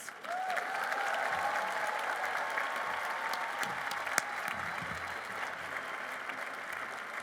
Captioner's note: applause